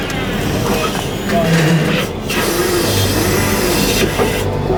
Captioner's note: flatbed whirring